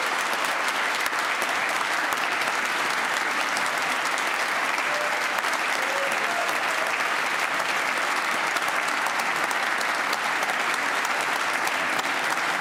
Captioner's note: applause